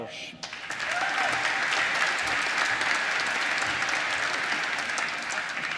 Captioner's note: applause